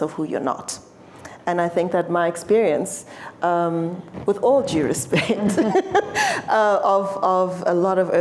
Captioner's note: laughs